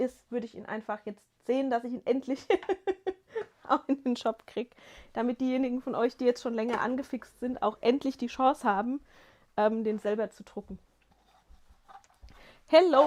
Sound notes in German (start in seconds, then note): 2.3 gelächter